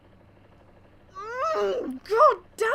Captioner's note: more angry noises